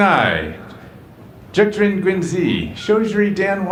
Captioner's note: speaks another language